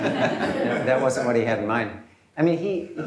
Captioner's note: laughter